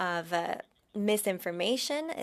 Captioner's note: speaking French